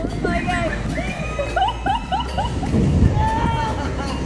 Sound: laughing

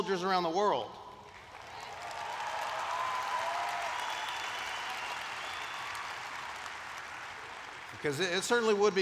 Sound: applause

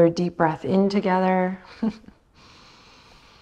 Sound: chuckles

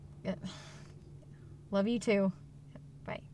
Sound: sighs

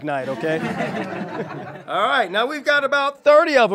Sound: audience laughs

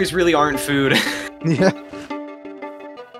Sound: laughs

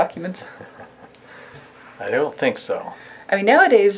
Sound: chuckling

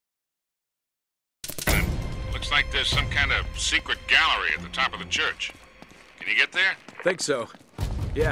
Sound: radio

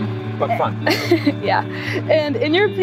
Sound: chuckling

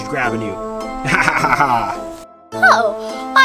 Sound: Mr. Engineer laughs

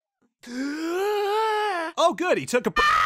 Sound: stops screaming; deep inhalation; screaming endlessly

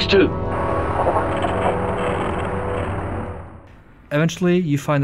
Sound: static

